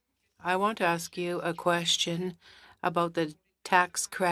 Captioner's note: speaking in French